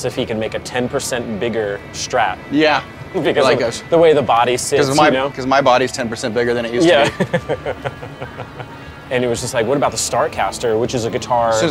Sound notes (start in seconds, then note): 6.8 laughs